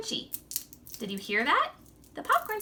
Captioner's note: popcorn crunching